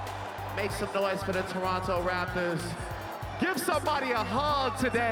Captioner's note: cheering and Applause